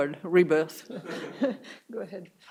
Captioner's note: everyone laughing